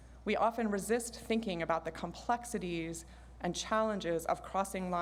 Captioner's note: none